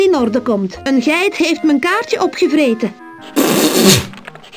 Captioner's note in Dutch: Pffff